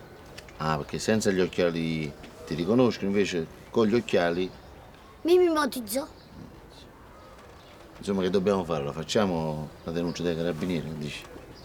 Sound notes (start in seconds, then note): none